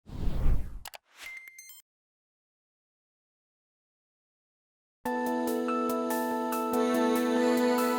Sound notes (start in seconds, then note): 0.0 logo whooshing; 5.1 gentle music